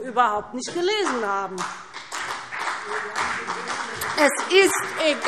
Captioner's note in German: Beifall BÜNDNIS 90/DIE GRÜNEN und CDU